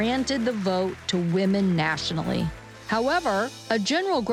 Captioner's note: distant applause